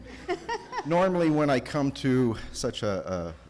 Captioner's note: laughter